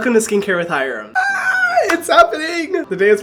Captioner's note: screeching